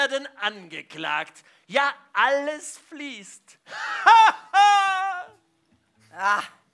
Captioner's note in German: lacht